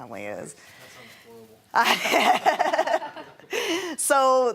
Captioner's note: laughing